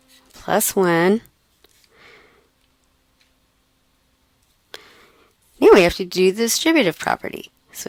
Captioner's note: pause